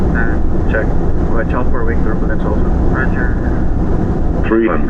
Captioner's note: A heavy aircraft just took off